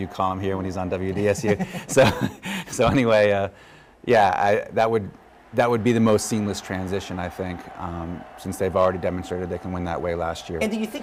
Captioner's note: laughter